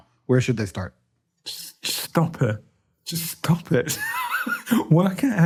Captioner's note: all laugh